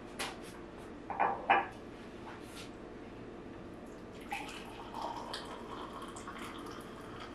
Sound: coffee pouring; cup clanking

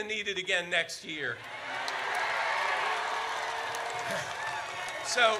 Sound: audience cheers

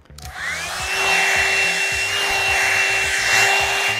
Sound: blow dryer humming

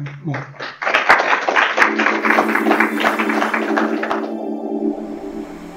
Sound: applause

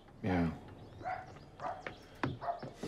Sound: footsteps approaching; dog barking

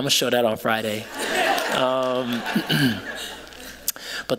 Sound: laughter

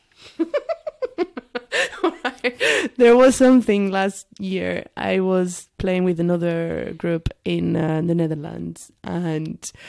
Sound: giggles

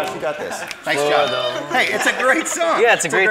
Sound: contestants laugh

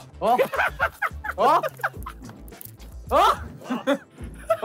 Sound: all laughing

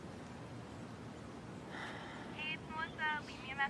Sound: exhales; over voicemail

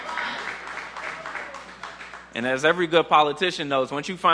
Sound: applause

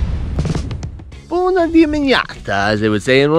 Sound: foreign language

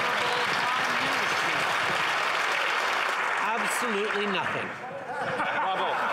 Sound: some Applause

